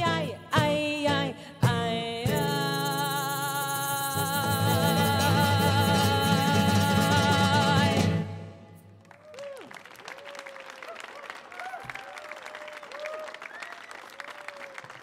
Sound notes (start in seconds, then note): 8.9 audience clapping; 9.0 audience cheering